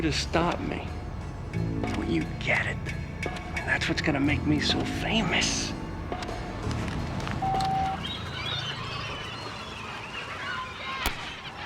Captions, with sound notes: - I want you to stop me. Don't you get it? I mean, that's what's gonna make me so famous. (beep)